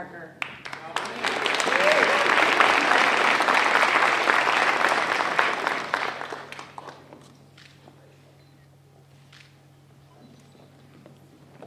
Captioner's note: applause